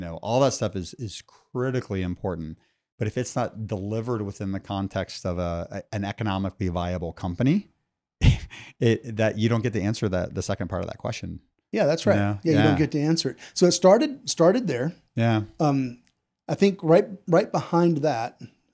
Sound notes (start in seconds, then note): 8.2 laughs